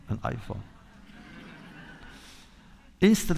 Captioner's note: laughter